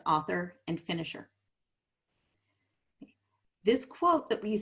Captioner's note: silence